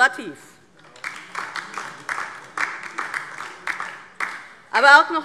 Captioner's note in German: Beifall DIE LINKE